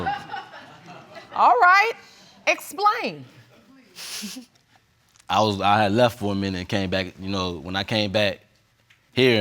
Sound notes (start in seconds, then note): 4.0 chuckles